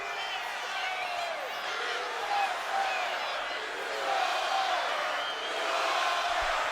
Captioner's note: crowd chants "USA/Goldberg"